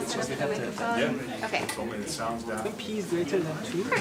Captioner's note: background chatter